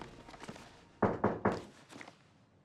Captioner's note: knocking